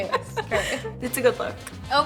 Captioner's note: laughter